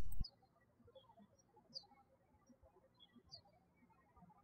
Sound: birds chirping

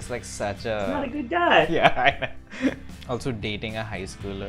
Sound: laughter

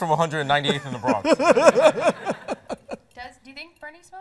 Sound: laughs

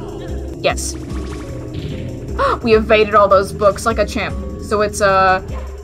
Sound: gasp

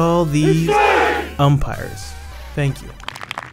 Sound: voiceover

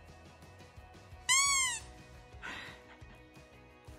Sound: squeaker noise

